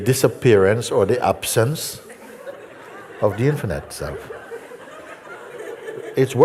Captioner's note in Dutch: gelach